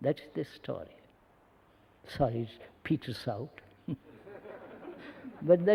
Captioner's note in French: Rires